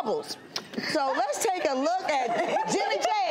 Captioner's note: everyone laughs